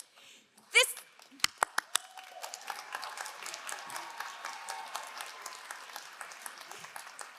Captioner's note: all applauding; all cheering